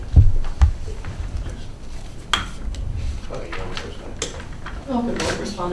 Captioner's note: attorneys chatter